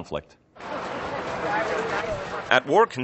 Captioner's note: chatter